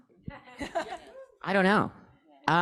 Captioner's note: audience laughing